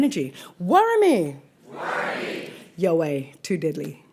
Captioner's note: audience replies